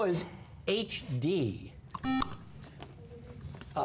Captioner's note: buzzer